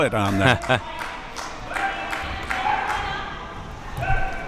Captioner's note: spectators shouting